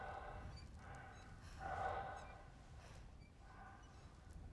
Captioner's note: heavy breathing